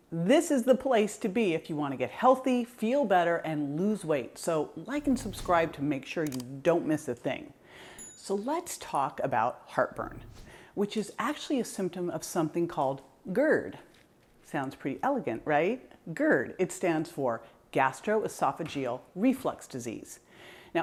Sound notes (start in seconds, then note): 6.2 mouse clicks; 8.0 bell chimes